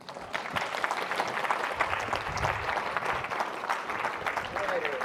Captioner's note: audience applauding